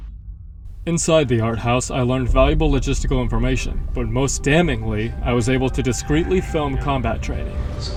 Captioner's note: voiceover